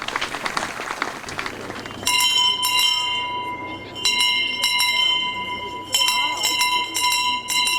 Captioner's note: applause; town crier ring the bell